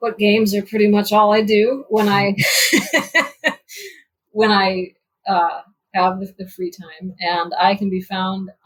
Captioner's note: laughs